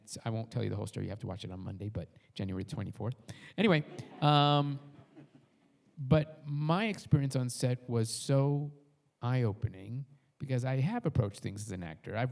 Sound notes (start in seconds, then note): 3.7 audience laughs